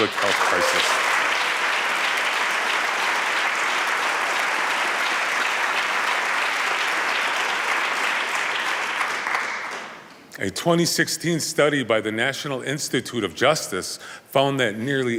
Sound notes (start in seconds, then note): 3.3 applause